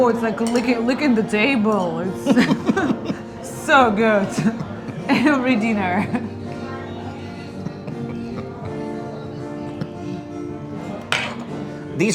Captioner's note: laughing